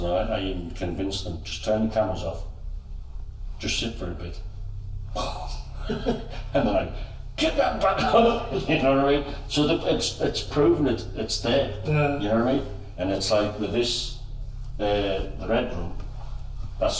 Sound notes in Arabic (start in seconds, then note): 5.0 تقليد اللهاث; 8.3 يضحك